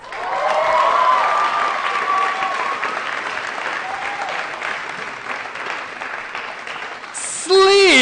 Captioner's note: applause & Cheering